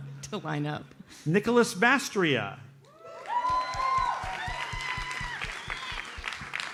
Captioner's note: audience cheers and applauds